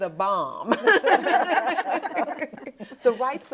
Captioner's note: laughing